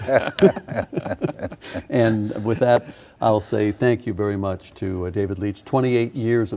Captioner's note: laughing